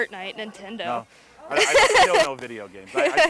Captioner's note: laughing